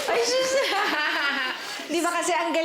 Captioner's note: audience cheers, applauds; laughs